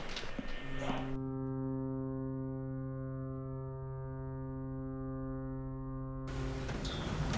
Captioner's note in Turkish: Vapur düdüğü sesi